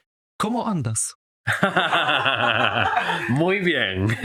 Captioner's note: laught